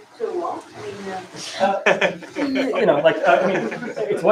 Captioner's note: laughter